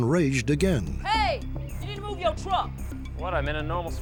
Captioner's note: yelling